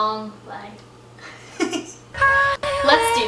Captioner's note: laughs